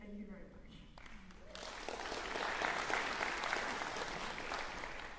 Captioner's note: applause